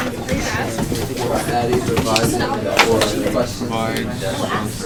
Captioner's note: chatter